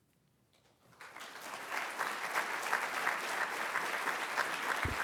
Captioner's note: applause